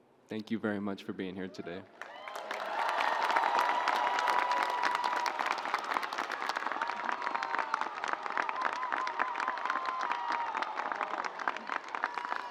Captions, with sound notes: Thank you very much for being here today. (audience cheering)